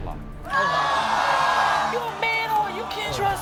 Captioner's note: audience oohs